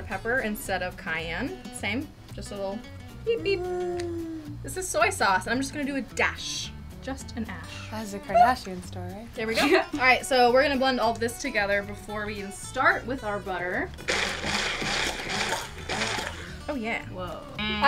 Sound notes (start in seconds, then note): 13.9 blender whirring